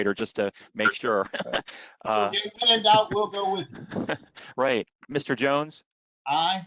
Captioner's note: laughter